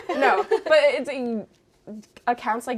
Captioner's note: all laughing